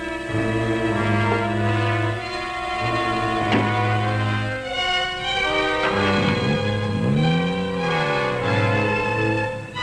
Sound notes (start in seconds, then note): 6.3 engine rumbling